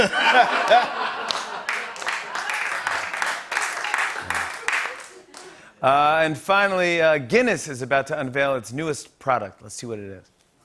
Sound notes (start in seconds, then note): 0.0 laughter; 1.1 scattered applause